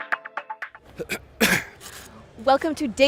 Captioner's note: upbeat techno music; coughs